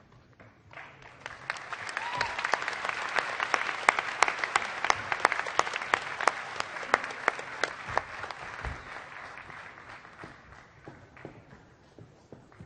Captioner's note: applause